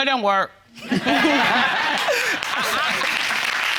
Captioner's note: crowd laughing